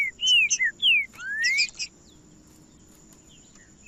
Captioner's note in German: trinca ferro cantando